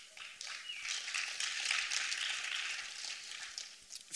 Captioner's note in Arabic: تـصـفيق